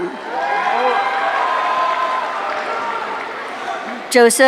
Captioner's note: audience cheering